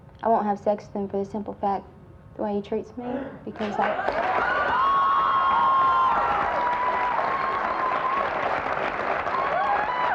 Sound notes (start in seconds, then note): 3.6 audience applauds